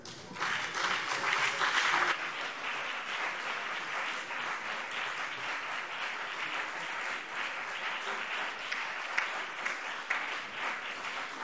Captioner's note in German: Beifall BÜNDNIS 90/DIE GRÜNEN und vereinzelt CDU